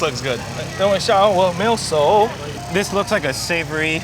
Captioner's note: man speaking foreign language